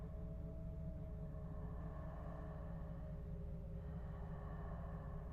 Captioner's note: breathing